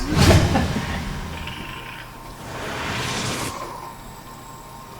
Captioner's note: whosh Sound